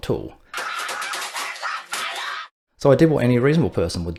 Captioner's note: theatrical screaming